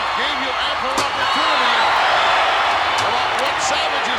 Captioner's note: crowd cheering